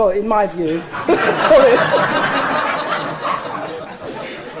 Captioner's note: audience laughing